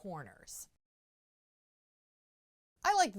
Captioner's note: no Sound Present